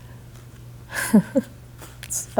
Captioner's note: laughing